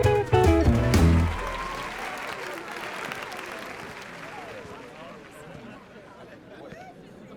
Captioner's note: audience applauding; crowd cheering